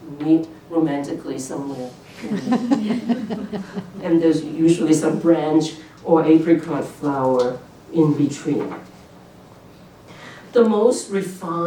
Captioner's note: laughter